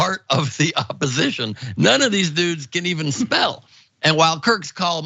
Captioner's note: laugh